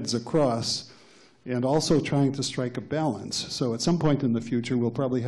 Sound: none

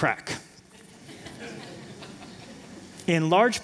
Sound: laughter

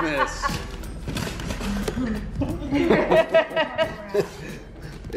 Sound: laughing

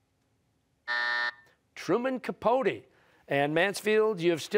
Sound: buzzer

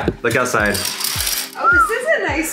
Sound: whistles

